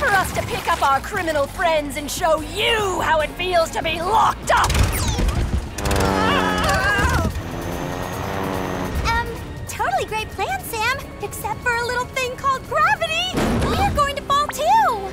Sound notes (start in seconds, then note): 3.8 yves and manny scream